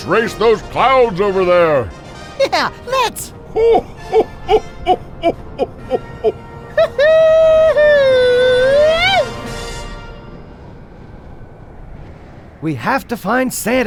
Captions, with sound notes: - Yeah, let's. (Santa chuckling) (Gargoff cheering) - We have to find Santa, Haldor. We've gotta warn him of Arvid the yeti's evil plan.